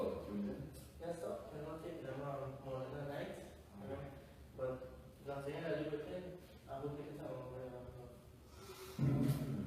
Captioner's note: sighs…